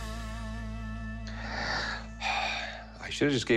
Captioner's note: sighs